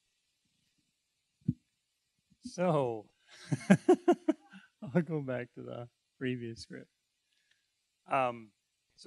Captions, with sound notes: >> So... (laughing) I'll go back to the previous script.